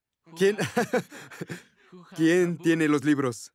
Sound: ríe

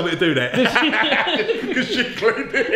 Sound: all laugh

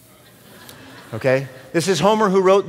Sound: laughter

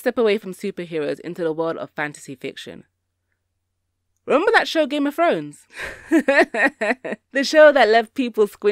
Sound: laughs

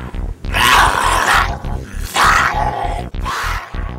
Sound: zombie growling

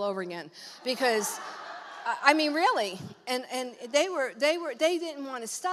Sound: congregation laughs

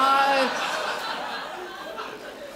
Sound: crowd laughs

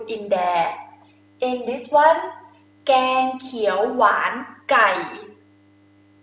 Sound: talking in foreign language

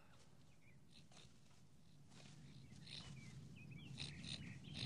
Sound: Kiog snorting

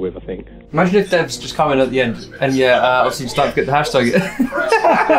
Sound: laughs

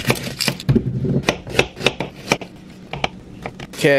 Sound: onion skin crackling; chopping

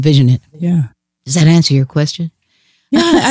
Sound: laughs

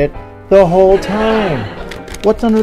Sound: laughter

